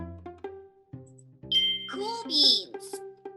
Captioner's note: bell dings